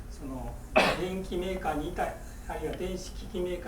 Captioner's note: coughing